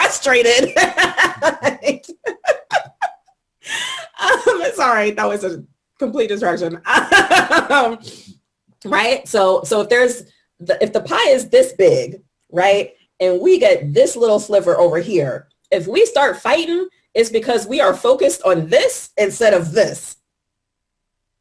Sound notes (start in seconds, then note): 2.5 laughter